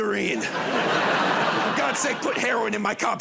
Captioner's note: laughter